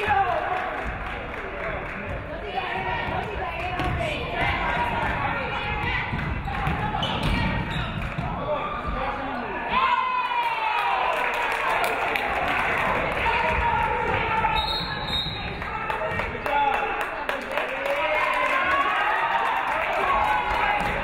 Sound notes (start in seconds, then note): 0.0 audience clapping; 0.0 audience cheering; 9.8 audience cheering; 10.4 audience clapping; 14.5 referee whistles; 15.5 audience clapping